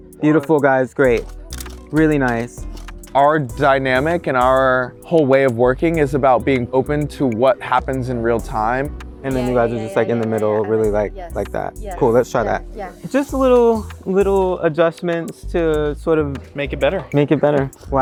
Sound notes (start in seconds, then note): 1.1 camera clicks